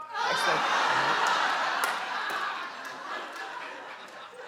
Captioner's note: audience laughing